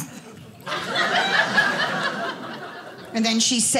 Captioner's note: audience laughing